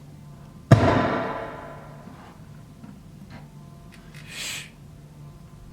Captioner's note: gunshot